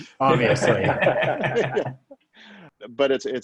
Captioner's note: laughing